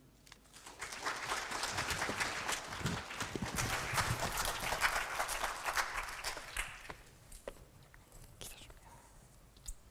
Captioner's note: applause